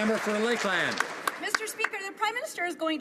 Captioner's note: some Applause